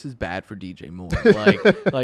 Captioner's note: laughs